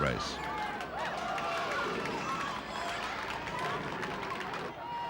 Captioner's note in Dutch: publiek juicht